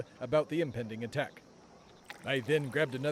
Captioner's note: horses gallop; beer pours